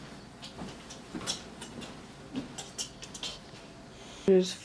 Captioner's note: chattering